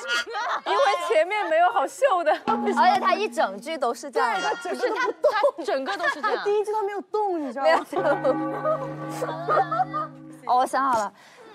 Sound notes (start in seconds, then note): 2.5 stage Boom